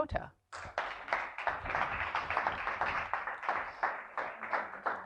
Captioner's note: applause